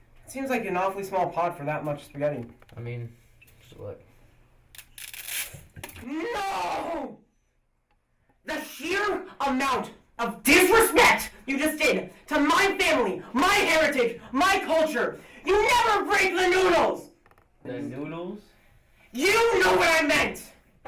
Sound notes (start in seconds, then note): 5.0 spaghetti snaps